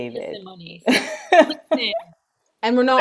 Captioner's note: laughs